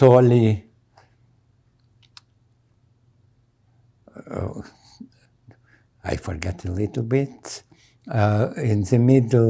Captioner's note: pauses 6 seconds